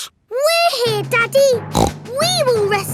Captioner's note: snorts